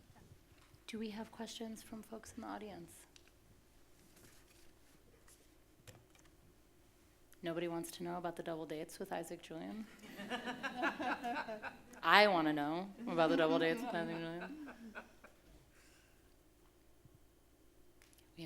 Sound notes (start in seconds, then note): 12.1 audience laughing